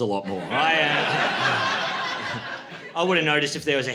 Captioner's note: laughter